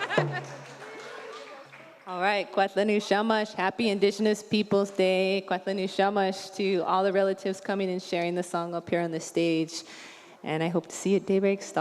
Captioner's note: applause